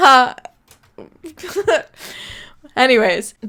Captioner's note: laughs